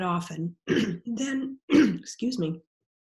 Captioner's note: clearing throat